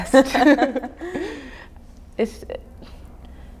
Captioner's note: laughing